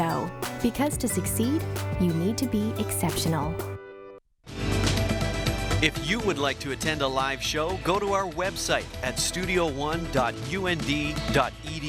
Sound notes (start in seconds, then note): 4.5 uptempo, bold news theme; 5.8 voiceover